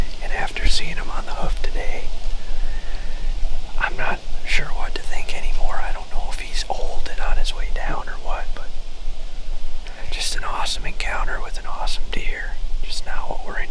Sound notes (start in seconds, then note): none